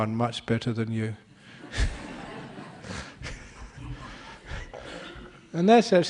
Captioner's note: laughter